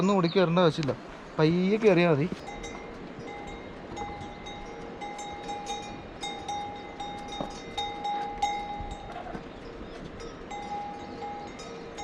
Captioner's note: cow bells